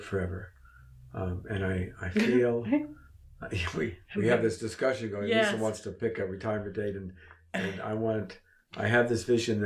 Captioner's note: laughs